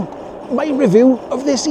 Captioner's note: laughing